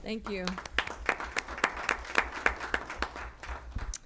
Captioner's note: applause